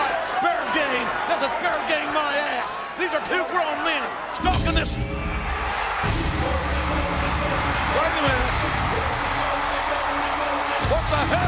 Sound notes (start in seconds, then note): 4.4 upbeat music; 5.3 crowd cheering; 9.7 crowd cheering